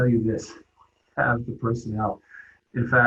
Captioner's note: laughs